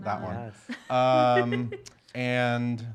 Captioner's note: laughing